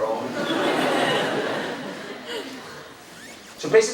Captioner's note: crowd laughing